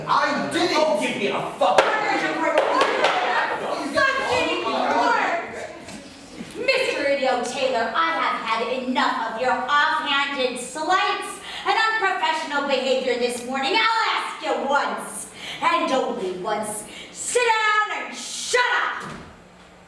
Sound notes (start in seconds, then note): 1.8 bickering and such